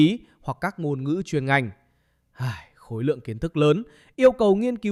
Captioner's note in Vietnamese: thở dài